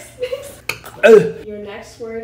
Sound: gagging

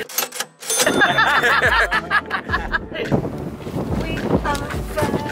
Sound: cash register chimes; laughs

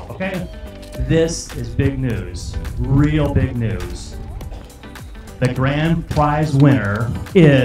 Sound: screaming

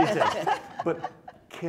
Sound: laughing

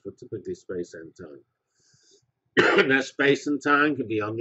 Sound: cough

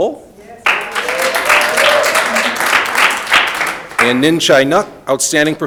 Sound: audience applauding

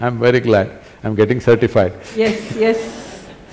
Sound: laughter; 笑聲

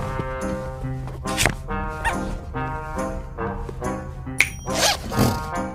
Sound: snap, ding!

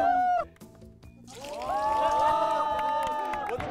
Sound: spilling

